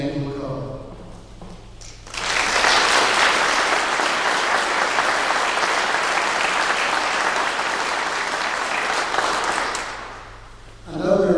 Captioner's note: clapping